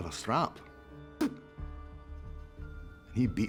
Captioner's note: spits